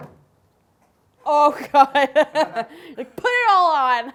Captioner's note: laughs